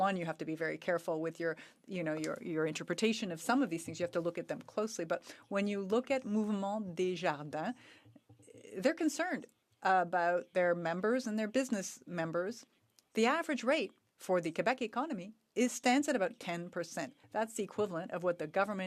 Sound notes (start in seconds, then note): 9.6 speaking French